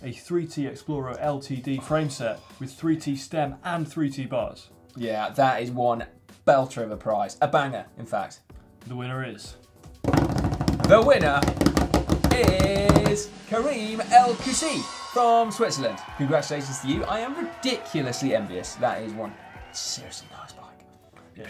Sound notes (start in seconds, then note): 10.2 drum roll; 13.9 audience cheers and applauds